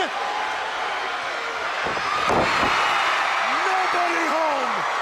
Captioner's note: crowd cheering